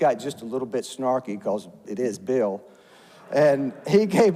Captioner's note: audience laughs